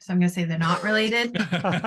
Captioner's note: laughter